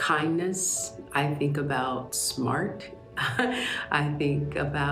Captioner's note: chuckles